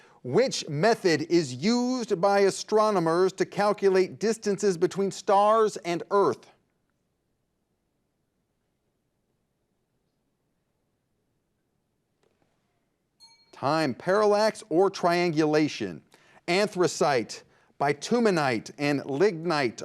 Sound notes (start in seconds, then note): 13.2 signal dings